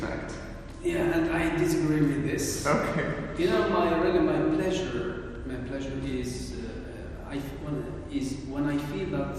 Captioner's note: mingled with a meek laughter